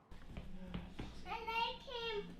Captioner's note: speaking in alternate language